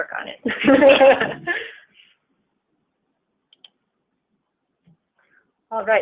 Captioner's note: laughing